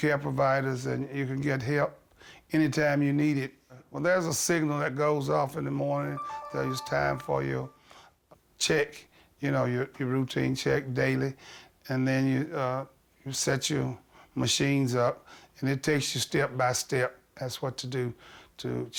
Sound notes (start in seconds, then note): 6.1 signal beeping